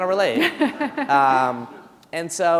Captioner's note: chuckle